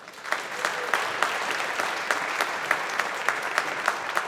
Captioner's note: audience applauding